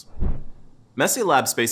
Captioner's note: air whooshing